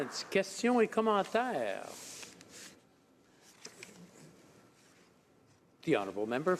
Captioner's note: some applause